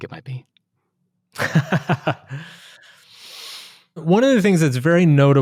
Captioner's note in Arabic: يضحك